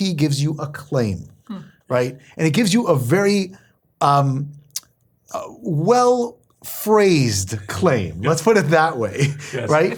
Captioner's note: laugh